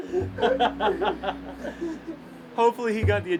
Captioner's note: laughter